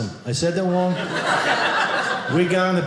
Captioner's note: audience laughing